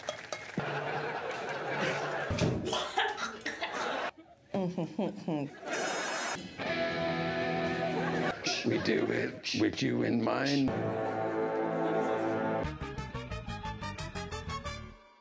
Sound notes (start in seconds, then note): 2.6 gags/vomits; 8.4 beatboxing